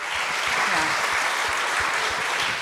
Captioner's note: applause